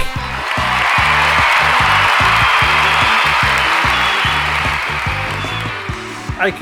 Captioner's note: crowd cheering